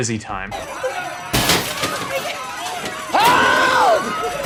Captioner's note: alarms ringing; glass shattering